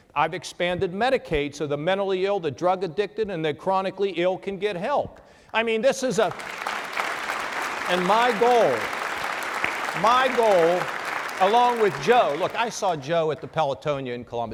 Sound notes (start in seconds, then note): 6.8 applause